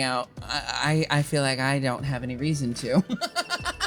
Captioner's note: laughing